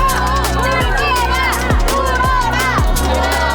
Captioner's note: sobs and laughter